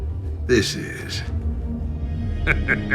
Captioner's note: laughs